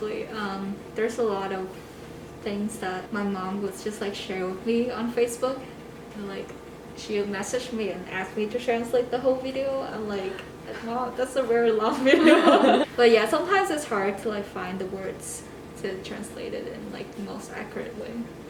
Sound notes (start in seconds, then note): 12.0 haha